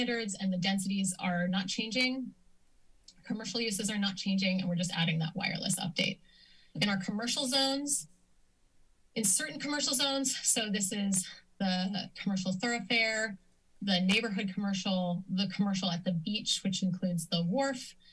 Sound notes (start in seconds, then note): 2.7 clicks tongue; 8.1 pause